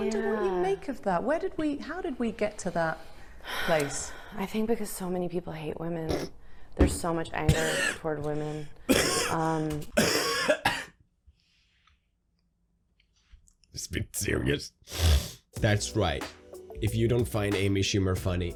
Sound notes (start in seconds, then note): 9.9 Pewds goes into a fit of coughing; 14.8 inhales